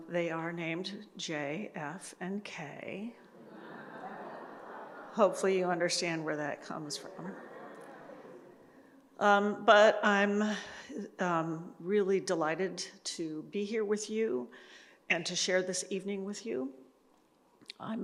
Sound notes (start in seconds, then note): 3.3 audience laughs